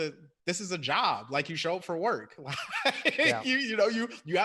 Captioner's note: laughs